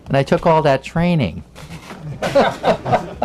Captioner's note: laughter